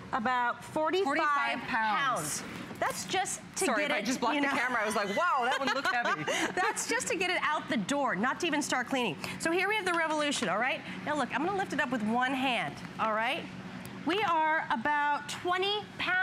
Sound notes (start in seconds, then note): 4.6 laughter